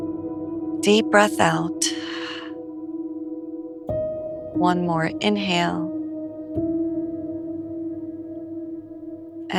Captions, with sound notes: Deep breath out. [exhales] One more inhale.